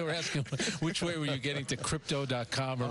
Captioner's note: laughter